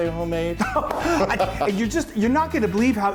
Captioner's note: laughing